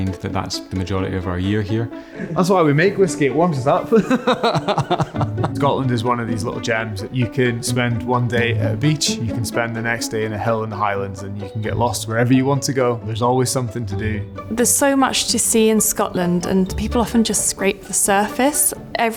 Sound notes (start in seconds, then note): 3.9 person laughing